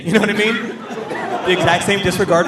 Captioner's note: audience laughing